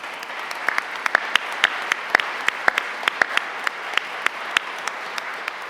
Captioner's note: applause